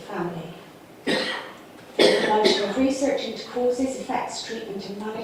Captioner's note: audience cough drowns out speaker